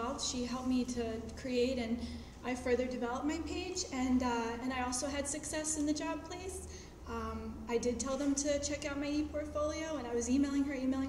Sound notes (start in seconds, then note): none